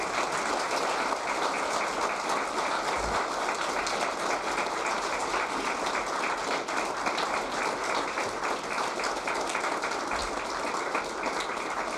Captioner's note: applause